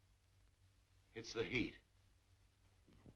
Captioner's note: none